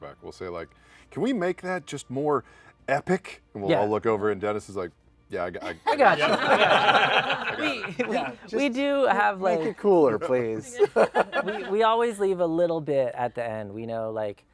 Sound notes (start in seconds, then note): 5.7 laughter